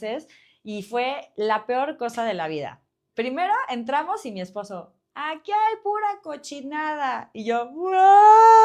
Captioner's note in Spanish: grito